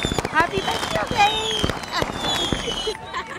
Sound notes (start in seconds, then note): 0.0 fireworks shooting